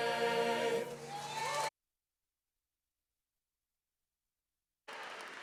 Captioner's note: audience cheering